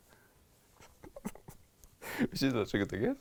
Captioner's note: laughs